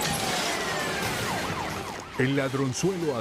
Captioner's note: glass shattering